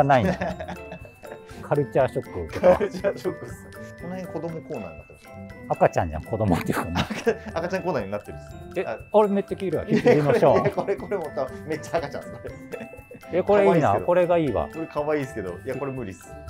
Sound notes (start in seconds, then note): 0.1 laughing